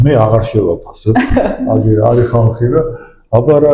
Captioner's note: giggles